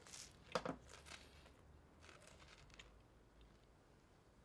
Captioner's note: food crunching